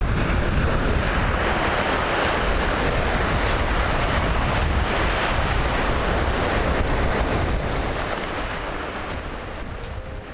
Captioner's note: waves crashing